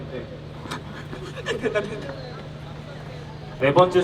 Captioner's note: laughing